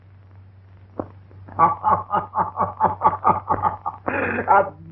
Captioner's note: laughing